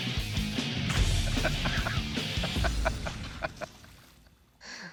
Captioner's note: laughing